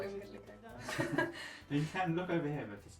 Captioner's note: laughing